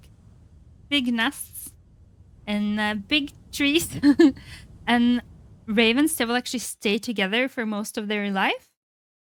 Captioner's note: laughs